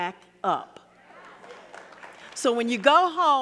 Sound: audience clapping

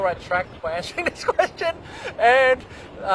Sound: laughs

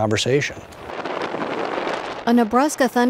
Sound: lightning cracks

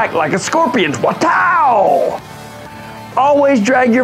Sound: makes whip noise

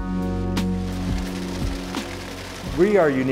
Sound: machine whirring

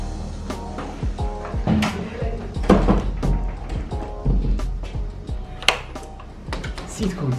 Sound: door lock

